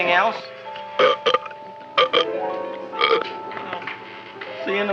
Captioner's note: Audrey Jr. burping